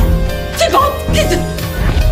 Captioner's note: Tiếng ồn phát sóng trực tiếp